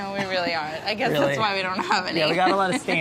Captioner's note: laughs